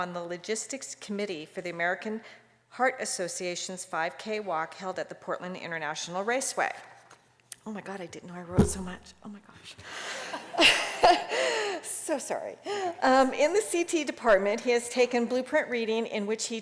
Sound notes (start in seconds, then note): 10.0 laughter